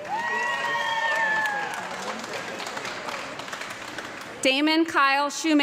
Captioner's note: audience clapping and cheering